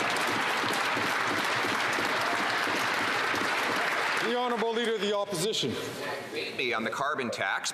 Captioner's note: some Applause